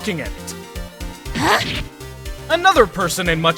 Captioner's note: grunt